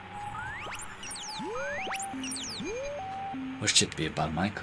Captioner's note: radio tones beeping